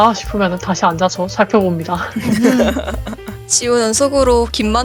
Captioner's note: laughs